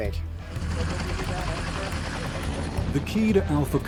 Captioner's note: helicopter blades whirring; voiceover